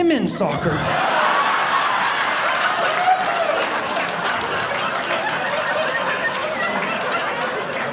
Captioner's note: audience laughing